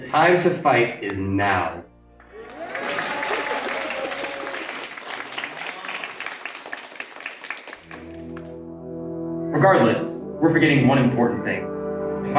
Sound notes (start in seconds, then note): 2.2 crowd claps in agreement